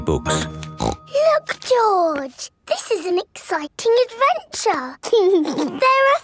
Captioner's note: snorts; giggles